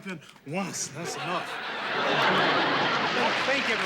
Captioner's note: laughter